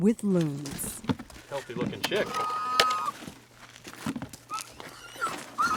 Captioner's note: loon chick screeching